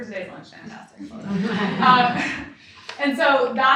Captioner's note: audience laughs